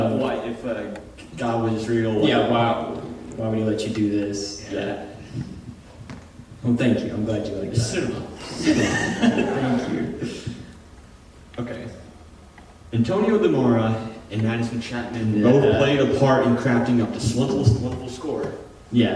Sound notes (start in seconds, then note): 8.3 audience chuckling